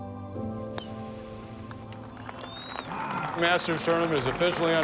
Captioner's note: crowd cheers